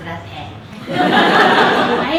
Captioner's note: laughter